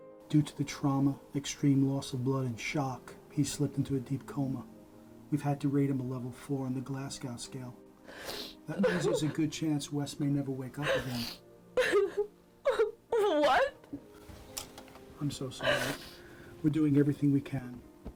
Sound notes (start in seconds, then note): 11.7 Julie sobs